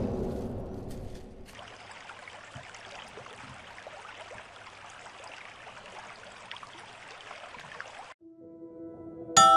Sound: haunting music; creek flowing

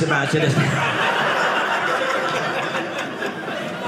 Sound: audience laughing

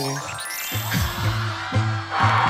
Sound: heart beats fast

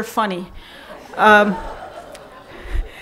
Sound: laughing

